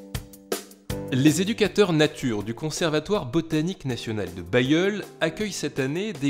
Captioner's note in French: Voix off